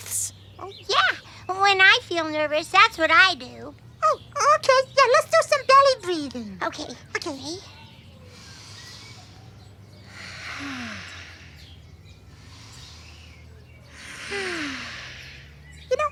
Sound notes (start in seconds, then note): 8.2 deep inhale; 9.7 exhale; 12.1 deep inhale; 12.1 exhale